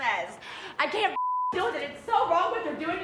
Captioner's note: beep